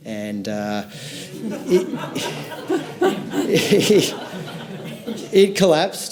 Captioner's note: audience laughs lightly